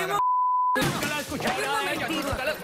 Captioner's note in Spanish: Estrépito